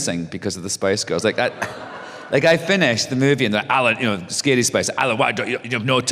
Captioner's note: laughter